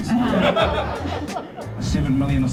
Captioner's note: audience laughs